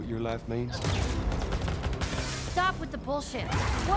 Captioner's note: gunfire, glass shattering